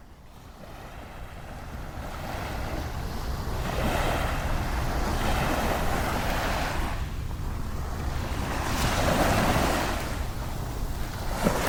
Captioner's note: waves crashing